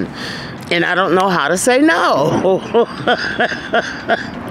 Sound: laughing

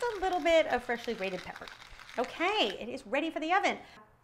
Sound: pepper grinding

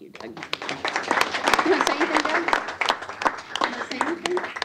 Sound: applause

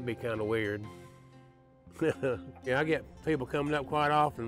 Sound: chuckles

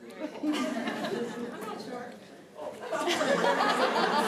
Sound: laughter

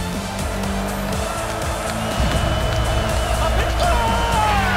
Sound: crowd roars loudly

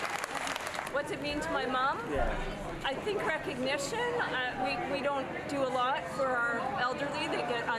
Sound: cheering and Applause

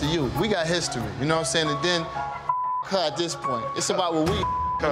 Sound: beep

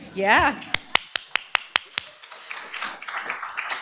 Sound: applause

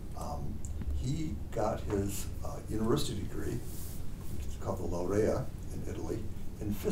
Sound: speaks in foreign language

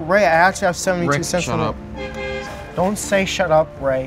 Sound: car beeping

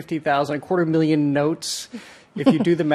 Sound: chuckles

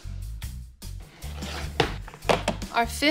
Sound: pizza pans clatter on counter

